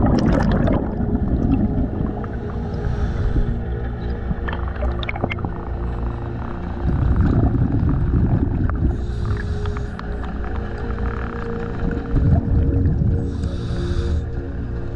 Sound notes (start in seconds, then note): 8.1 underwater sounds continue